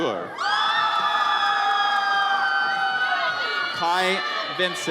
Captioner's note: audience cheers